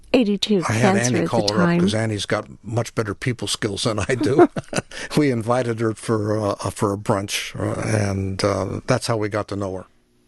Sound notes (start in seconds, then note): 4.0 laughs